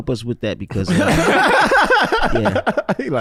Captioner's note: brothers laughing